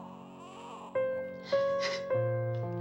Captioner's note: sobs